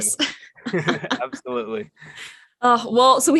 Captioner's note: laughing